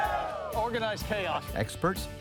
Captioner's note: people cheering